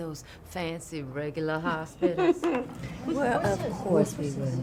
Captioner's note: W.C. laughing